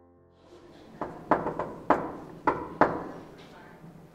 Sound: knocking

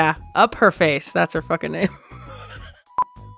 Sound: laughs

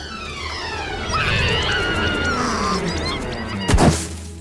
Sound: screams

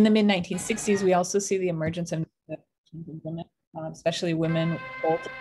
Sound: audio distortion

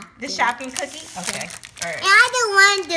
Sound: voiceover

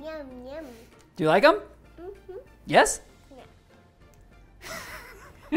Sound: laughing

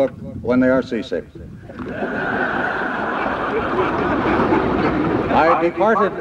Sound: laughter

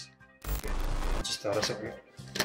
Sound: electronics crackling

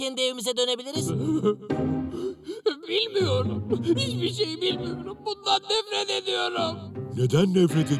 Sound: crying

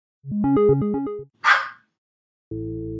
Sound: start sound, dog barks

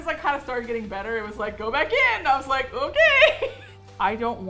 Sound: laughs

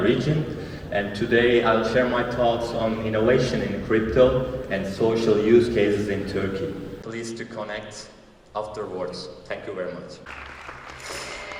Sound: applause

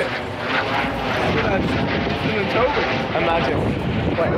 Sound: aeroplane flying overhead

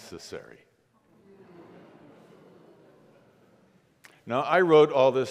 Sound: congregation murmurs

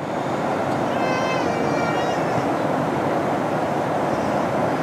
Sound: loud crying

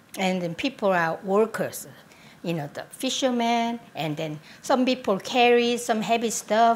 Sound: none

